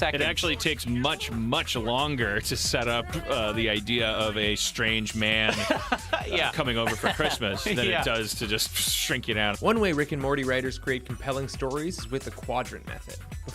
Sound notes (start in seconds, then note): 5.3 laughing